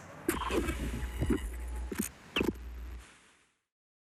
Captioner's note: static hisses